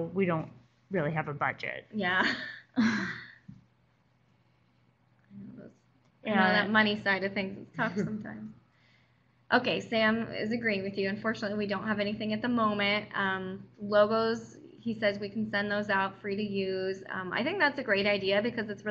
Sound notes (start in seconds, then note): 2.5 rueful laugh